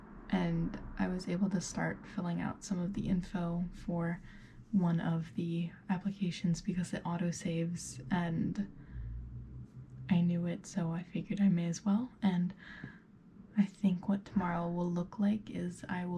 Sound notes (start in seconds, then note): none